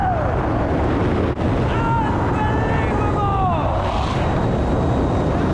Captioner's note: echoes; echoes